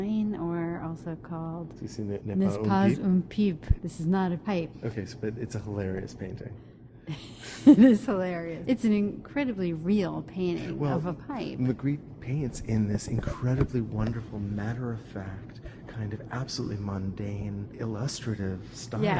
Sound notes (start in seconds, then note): 7.1 chuckles